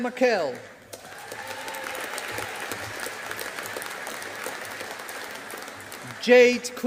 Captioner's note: audience applauding